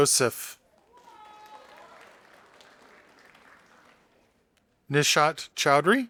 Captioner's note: audience applauding